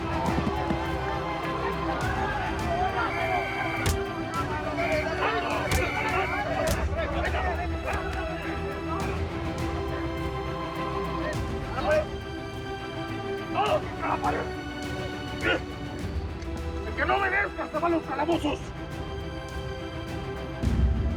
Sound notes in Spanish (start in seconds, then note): 0.1 Golpes; 1.9 Silbato; 7.6 Golpes